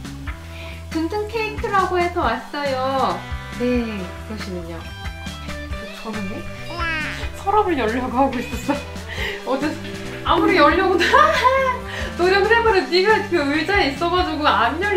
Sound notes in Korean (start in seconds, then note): 9.0 웃음